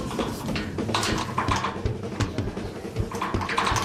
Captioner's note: gate rattling